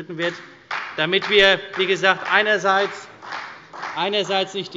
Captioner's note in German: Beifall bei der CDU und dem BÜNDNIS 90/DIE GRÜNEN